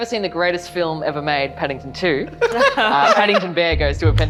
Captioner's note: laughing